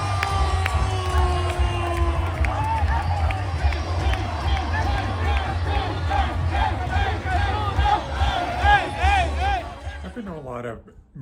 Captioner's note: cheering